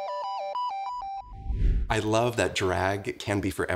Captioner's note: bright electronic music; image whooshes